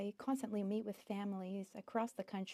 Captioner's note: speaking French